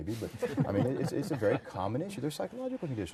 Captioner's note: group laughter